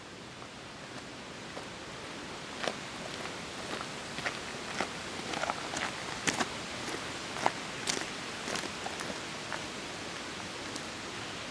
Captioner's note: footsteps